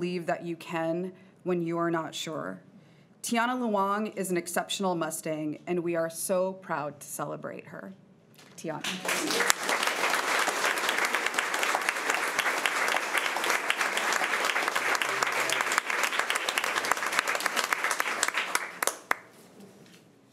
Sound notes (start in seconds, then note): 9.5 crowd clapping